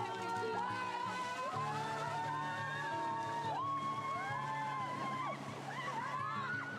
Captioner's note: shrieks and cheers